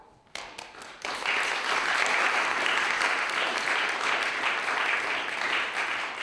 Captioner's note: applause